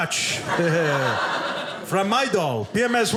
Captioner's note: audience laughing